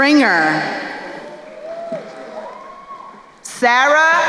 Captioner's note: crowd cheering